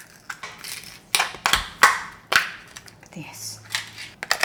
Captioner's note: spoon scraping